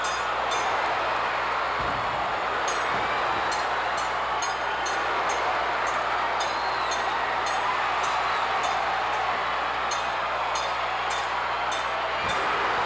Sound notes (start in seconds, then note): 1.4 floor banging; 2.6 bell clanging continues